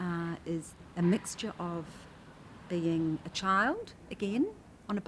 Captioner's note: none